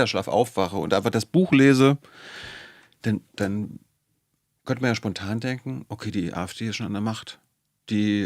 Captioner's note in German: japst